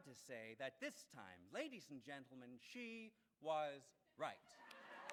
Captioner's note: laughs